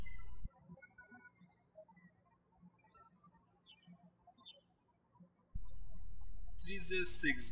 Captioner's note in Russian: птички щебечут